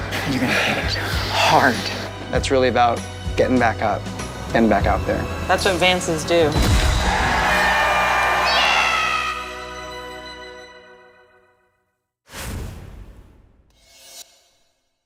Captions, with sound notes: And you're gonna hit hard. It's really about getting back up. Getting back out there. That's what Vances do. -(CROWD CHEERS) -(YELLS) Yeah!